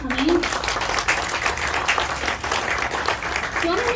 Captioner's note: audience clapping